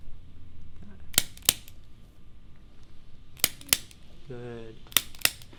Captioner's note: activator clicking